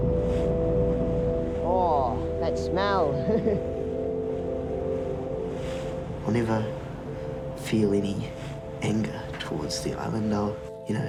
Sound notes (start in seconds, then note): 3.2 chuckles